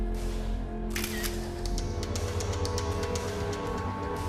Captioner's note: sonido cámara fotográfica